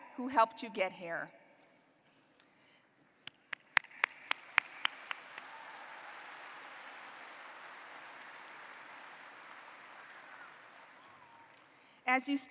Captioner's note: applause